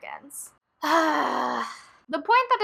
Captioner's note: sigh